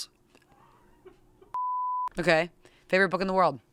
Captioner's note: beep